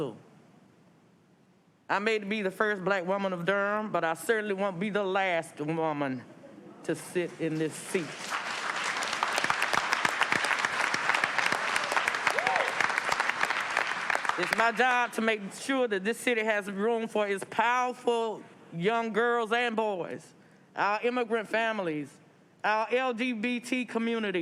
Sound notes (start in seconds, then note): 12.7 applause